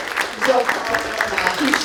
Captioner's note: applause